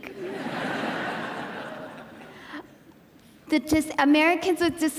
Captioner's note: audience laughing